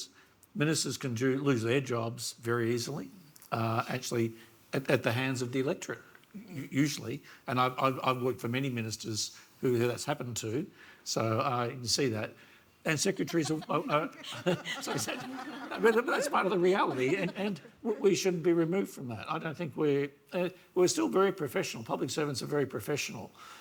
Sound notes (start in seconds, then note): 13.2 laughs; 15.0 audience laughs